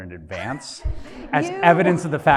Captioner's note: audience laughs